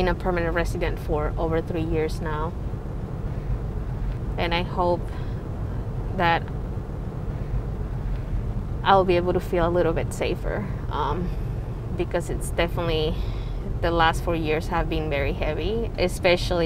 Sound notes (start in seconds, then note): none